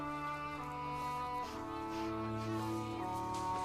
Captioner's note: sniffs